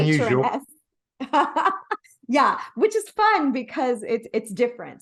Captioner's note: laughs